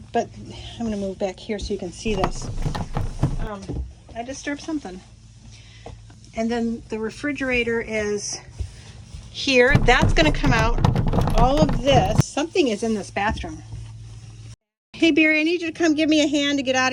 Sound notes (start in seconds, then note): 9.7 banging noises